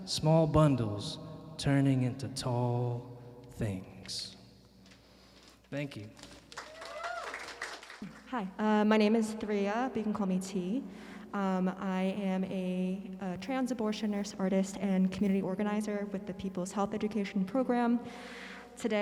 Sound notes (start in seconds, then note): 6.4 audience cheering and applauding